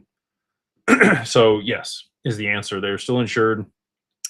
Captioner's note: clears throat